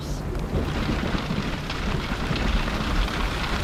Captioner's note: thunder rumbles, rainfall continues